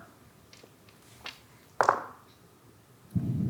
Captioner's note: dice rolling